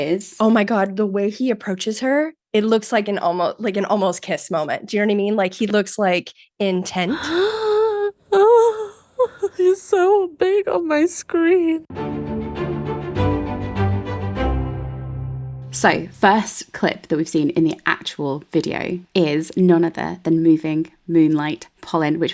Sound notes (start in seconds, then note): 7.1 gasping; 11.9 upbeat music